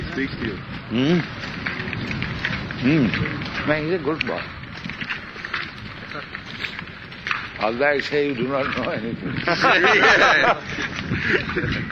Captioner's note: laughter